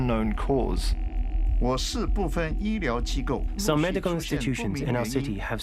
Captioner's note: comienza en chino, luego en inglés